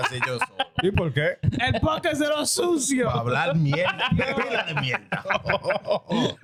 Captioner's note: laughing; speaking In Foreign Language